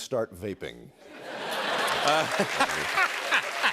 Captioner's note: cheers and applause